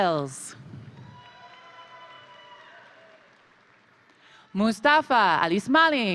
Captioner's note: crowd applauding; crowd cheering